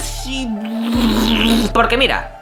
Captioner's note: loud shitting noises